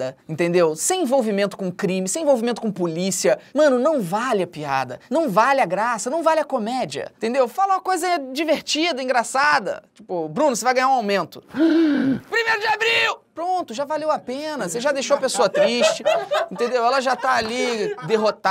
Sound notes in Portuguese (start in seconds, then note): 11.5 faz som de surpresa; 15.0 risadas